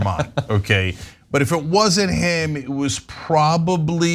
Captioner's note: laugh